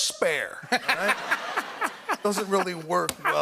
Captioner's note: laughter